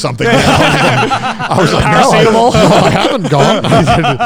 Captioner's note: laughter